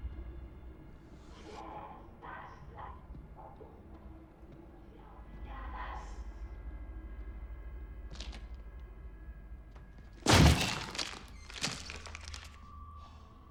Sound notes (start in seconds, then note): 10.2 wood cracking; 10.2 door thuds